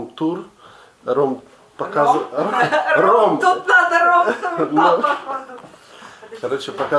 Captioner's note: laughs